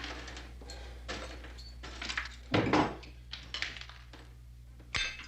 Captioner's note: metal clattering